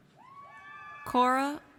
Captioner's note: audience cheers